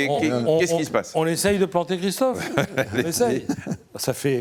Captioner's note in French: rires